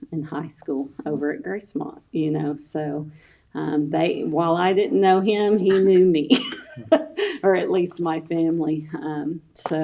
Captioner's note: laughs